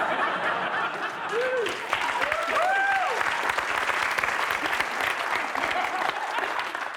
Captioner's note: applause